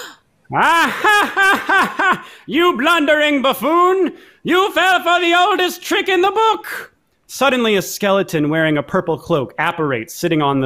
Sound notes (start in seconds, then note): 0.5 laughs